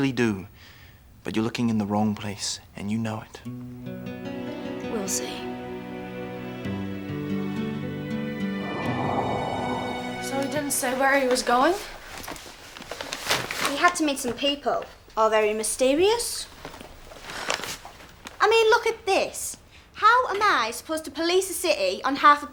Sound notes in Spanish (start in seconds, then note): 5.6 música sombría; 8.5 viento que sopla